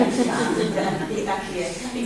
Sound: audience laughs

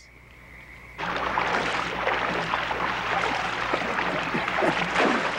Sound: water lapping

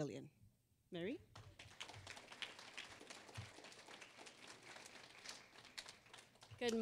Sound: applause

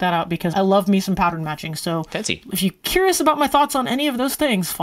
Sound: none

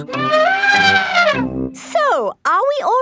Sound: trumpeting

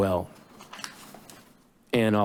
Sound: paper flip

